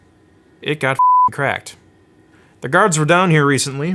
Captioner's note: beeping